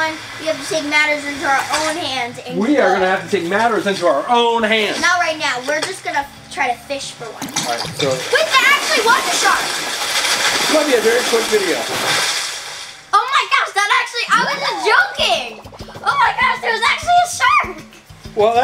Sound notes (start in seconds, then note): 9.9 fish splashing